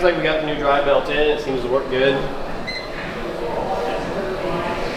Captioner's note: beeping